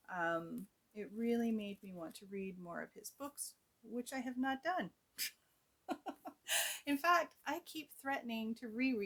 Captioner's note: laughs